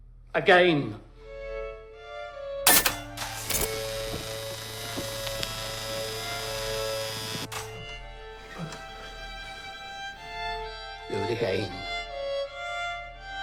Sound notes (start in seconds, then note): 1.2 dramatic orchestral music; 2.6 current buzzing; 2.6 machine clanks; 8.6 gasping